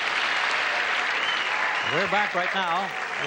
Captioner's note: audience cheers